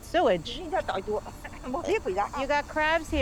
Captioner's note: speaking in foreign language